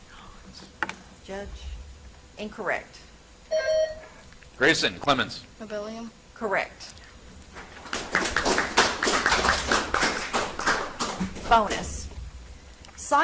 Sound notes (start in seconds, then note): 3.4 buzzer chimes; 7.5 audience applauds